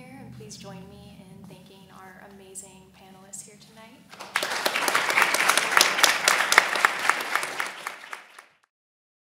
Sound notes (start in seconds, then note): 4.1 audience applauds